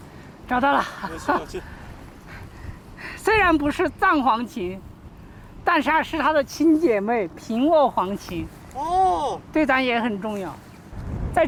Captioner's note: speaking Chinese